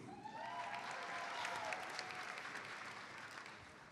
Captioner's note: audience applauds